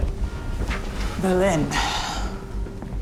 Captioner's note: sighs